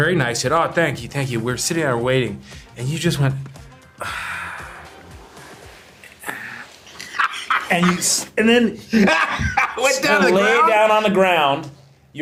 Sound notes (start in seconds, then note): 3.8 sighs